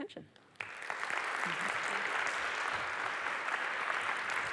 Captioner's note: applause